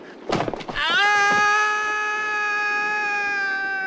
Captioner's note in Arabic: صراخ